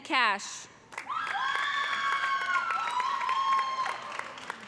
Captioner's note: cheers and applause